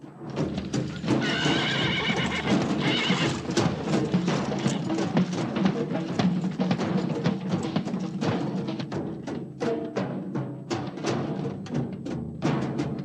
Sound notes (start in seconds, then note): 0.7 horses whinnying; 4.0 drumming continues